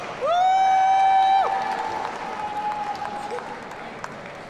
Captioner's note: audience cheering